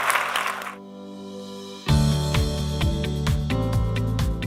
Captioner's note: applause